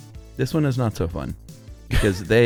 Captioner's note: laughs